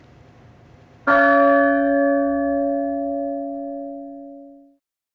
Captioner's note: bell ringing